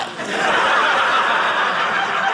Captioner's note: audience laughing